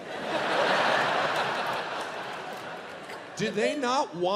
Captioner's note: audience laughs